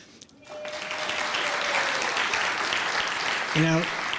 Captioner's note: clapping